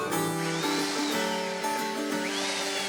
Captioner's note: drilling